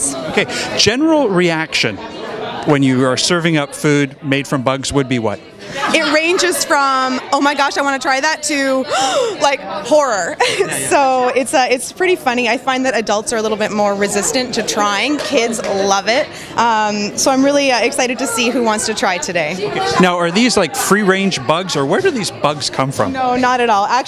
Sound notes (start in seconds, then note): 8.9 gasp